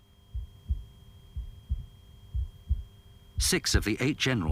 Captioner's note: heart beating